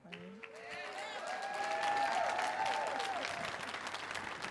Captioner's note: audience cheering